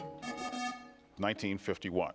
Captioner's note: buzzer buzzes